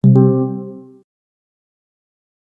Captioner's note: AirPods chime